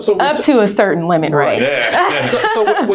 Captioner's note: laughing